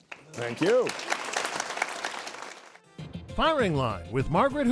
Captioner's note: audience applauding